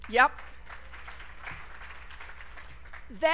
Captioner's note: applause